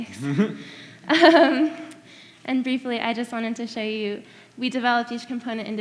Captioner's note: laughs